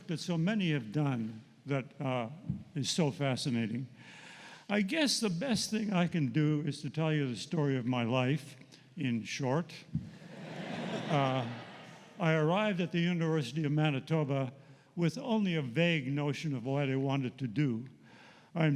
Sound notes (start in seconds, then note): 10.2 laughter